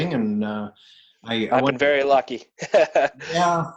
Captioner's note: laughs